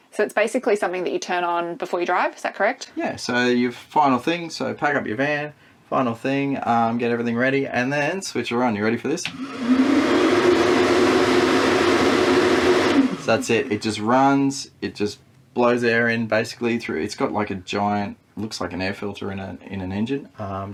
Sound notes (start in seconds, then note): 9.2 fan starts up; 12.8 fan turns off